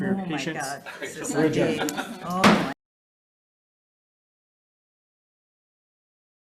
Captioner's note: gavel bangs